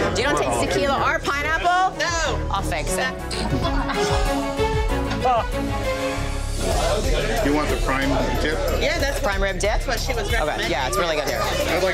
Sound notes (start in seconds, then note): 3.3 laughing